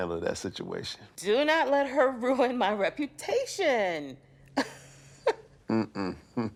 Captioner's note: laughs